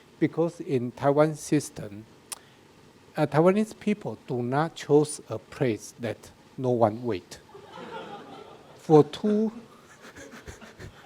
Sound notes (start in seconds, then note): 7.5 audience laughing; 9.5 laughs